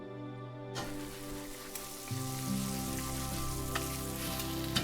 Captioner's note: food sizzling